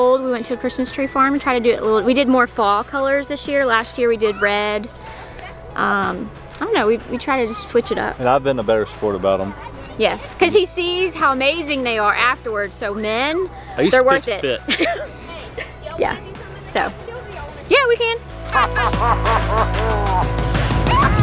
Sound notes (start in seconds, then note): 14.6 laughs; 18.5 laughs